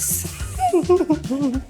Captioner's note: laughter